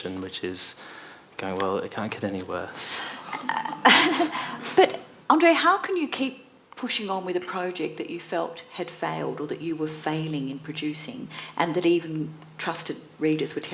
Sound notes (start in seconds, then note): 3.4 audience laughing